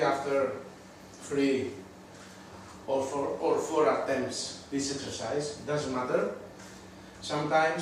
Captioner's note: none